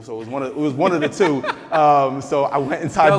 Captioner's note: laughing